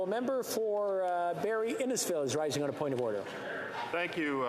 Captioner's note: speaking French